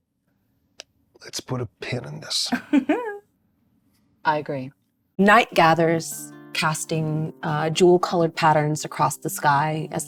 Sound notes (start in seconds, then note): 2.5 laughing